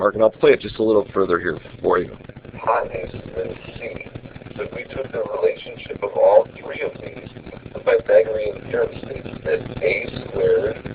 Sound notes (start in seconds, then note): 2.6 lesson audio plays